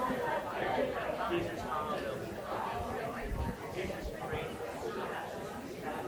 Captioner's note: people chattering continues